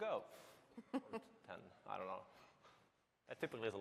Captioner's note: laughter